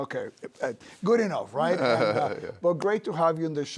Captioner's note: laughs